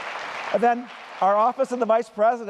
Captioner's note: applause